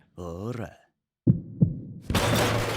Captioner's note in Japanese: 大瀬の心音; 物が激しく倒される音